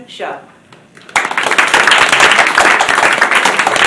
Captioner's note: applause